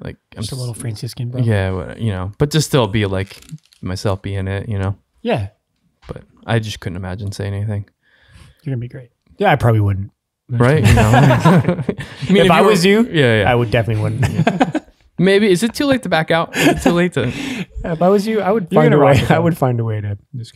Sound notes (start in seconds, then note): 10.7 group laughs